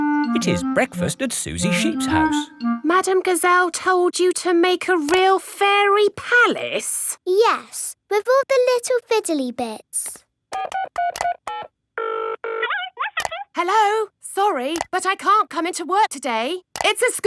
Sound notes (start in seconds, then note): 10.5 dials phone; 12.5 on phone